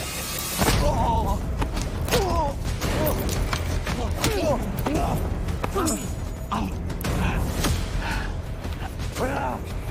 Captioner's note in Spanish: Jadeos y quejidos